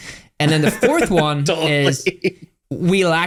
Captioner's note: laughs